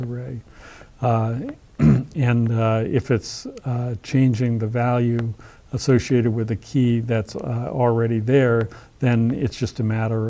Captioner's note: cough